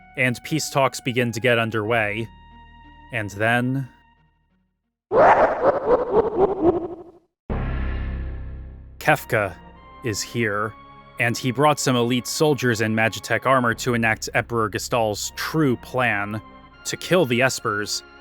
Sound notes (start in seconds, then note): 5.0 sound-compressed laughter